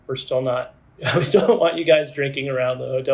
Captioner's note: laughs